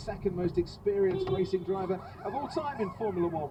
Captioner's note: beepbeep